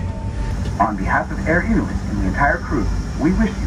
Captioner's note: overhead Announcement